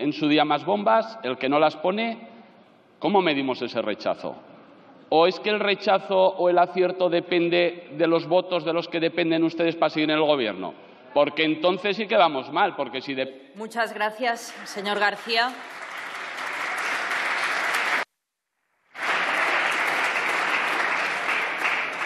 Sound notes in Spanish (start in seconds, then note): 14.5 Aplausos